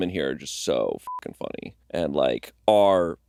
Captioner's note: beeping